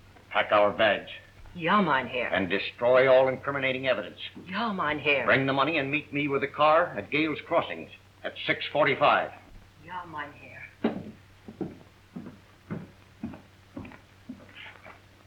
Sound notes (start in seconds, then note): none